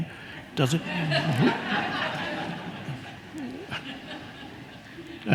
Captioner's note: audience laughing